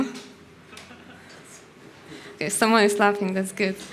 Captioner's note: people in audience laughs